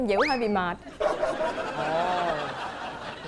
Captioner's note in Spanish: risa